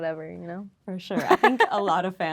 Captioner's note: Lola laughing